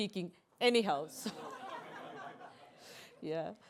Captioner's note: laughter